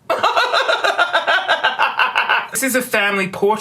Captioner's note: laughter